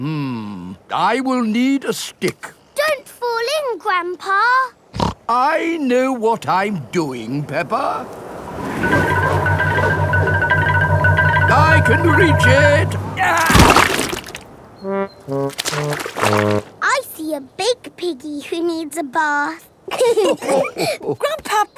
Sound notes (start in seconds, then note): 5.3 snorts; 13.5 groans; 20.1 all laughing